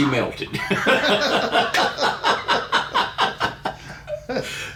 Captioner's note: laughing